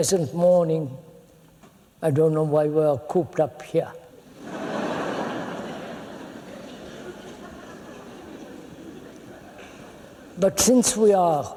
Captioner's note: laughter